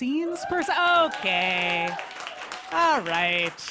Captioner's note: applause